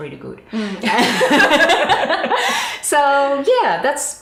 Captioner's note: both laughing